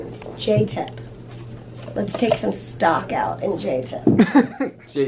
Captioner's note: laughs